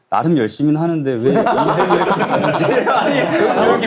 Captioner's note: teary